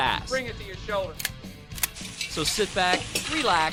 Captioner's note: gun clicks